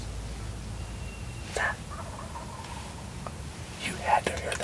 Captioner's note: whispering